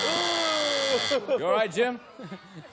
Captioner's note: buzzer